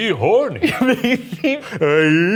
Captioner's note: laughing